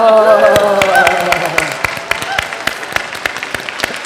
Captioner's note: audience applauds